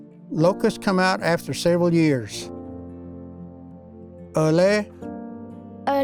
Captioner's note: Repeats first word in Cherokee